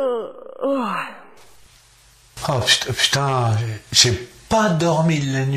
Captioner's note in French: bruit baillemen